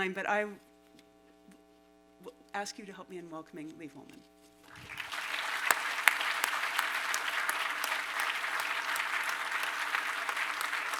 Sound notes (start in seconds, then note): 4.6 applause